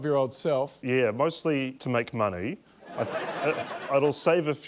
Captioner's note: laughter